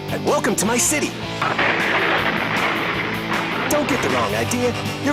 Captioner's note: explosion booming